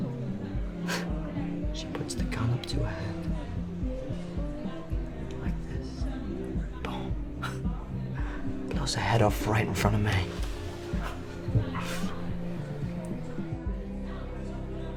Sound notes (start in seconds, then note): 1.3 scoffs; 7.9 scoffs; 11.6 soft upbeat music